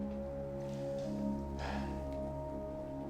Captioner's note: sighs